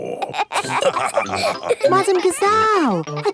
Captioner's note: all laughing